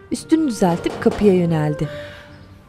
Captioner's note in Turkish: Kapı tıklama sesi